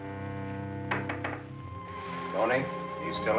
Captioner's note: knocking